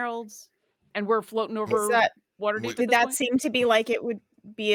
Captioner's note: murmurs